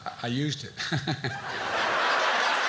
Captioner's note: laughs